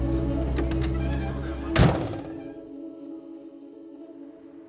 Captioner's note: instrumental music continues; door slamming shut